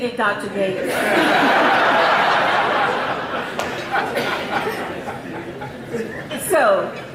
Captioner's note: audience laughing